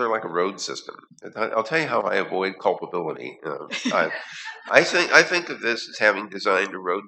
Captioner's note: laughter